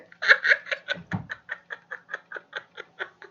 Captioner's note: laughs